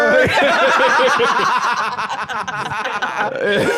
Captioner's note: all laughing